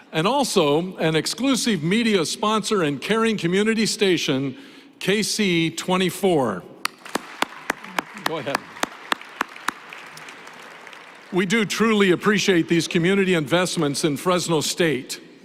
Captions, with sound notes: And also, an exclusive media sponsor and caring community station, KSEE 24. [ Applause ] We do truly appreciate these community investments in Fresno State.